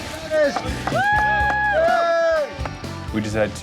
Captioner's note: cheering